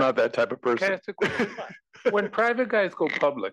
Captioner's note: laugh